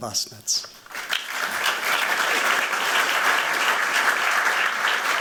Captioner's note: applause